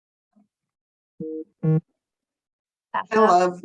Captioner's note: message beep